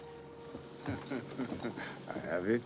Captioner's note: Jean-Pierre laughing